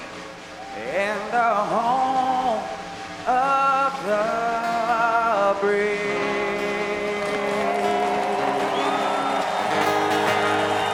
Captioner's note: cheers and applause